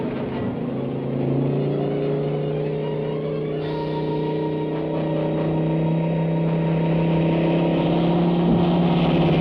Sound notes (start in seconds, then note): 1.0 engine buzzing